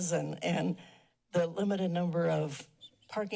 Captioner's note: none